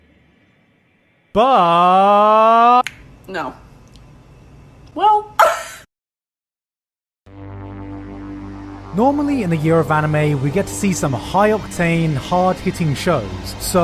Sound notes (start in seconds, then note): 2.8 clicks tongue